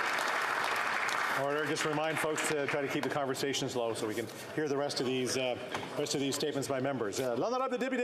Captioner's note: applause